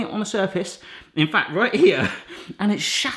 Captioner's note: laughs